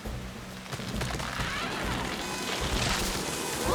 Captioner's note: tree Snapping